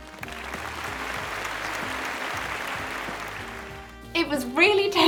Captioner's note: audience clapping